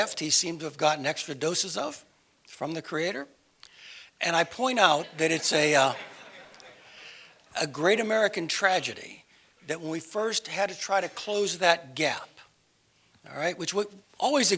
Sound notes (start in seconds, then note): 4.9 laugh